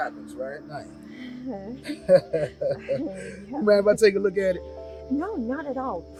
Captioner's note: chuckles